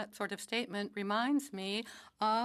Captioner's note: speaking French